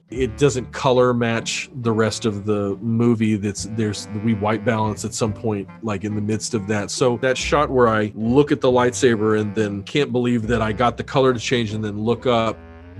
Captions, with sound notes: It doesn't color match the rest of the movie, [stammers] we white balanced at some point like, in the midst of that, so that shot where I look at the lightsaber and then can't believe that I got the color to change and then look up,